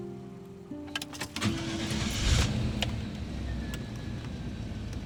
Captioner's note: engine turns over